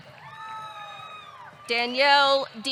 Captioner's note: audience cheering